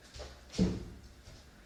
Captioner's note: thump